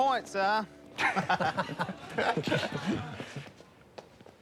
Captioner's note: laughter